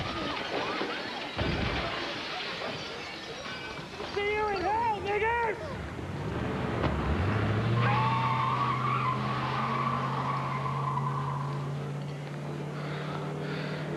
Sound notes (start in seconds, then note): 1.3 gunshots; 8.4 tires squealing